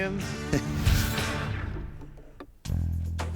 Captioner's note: chuckles